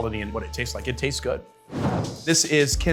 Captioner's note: graphic whooshing